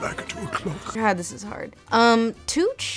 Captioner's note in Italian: voce fuori campo